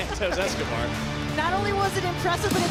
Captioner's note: laughs